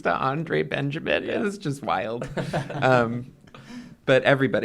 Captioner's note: laughter